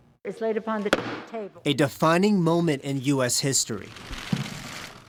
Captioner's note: pelosi gavel